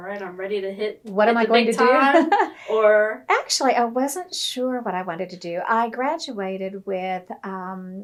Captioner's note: laughter